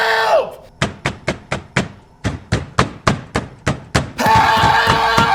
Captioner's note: banging on door